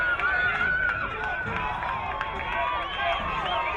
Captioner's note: crowd cheering